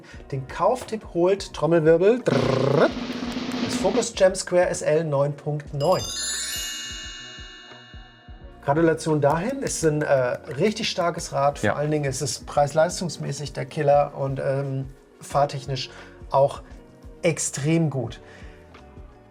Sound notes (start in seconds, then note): 7.0 ringing